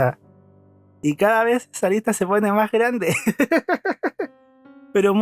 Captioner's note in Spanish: risas